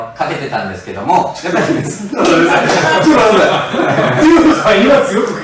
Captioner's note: laughs